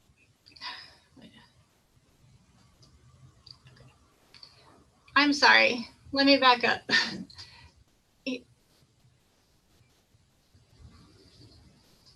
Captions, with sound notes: I'm sorry, let me back up. (chuckles)